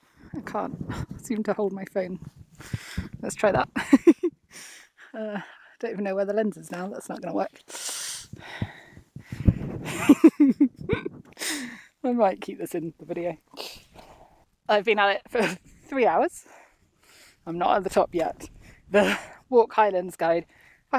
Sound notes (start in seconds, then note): 3.8 giggles; 9.8 laughter